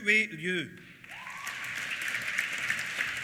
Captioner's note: applause; cheers